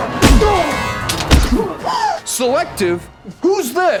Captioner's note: bashing